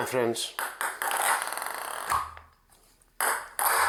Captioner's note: ball bouncing